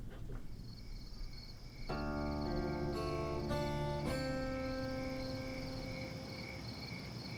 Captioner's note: crickets chirping; melancholy music